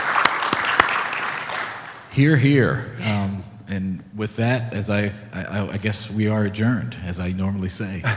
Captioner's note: clapping